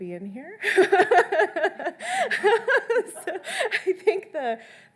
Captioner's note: laughing